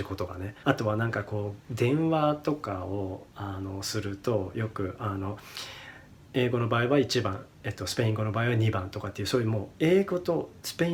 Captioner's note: english/Spanish